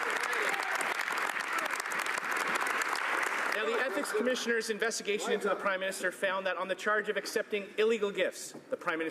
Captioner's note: some Applause